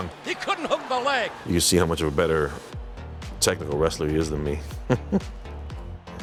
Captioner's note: laugh